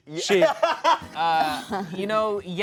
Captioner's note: laughs